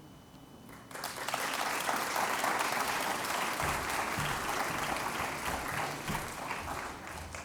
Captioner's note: applause